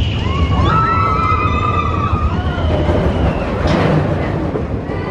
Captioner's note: people screaming